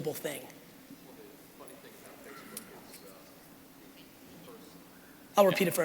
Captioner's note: crowd member speaking quietly